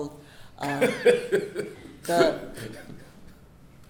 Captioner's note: laughs